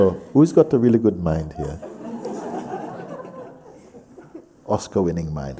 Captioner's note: laughter